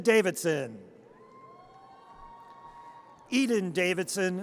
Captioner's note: audience cheers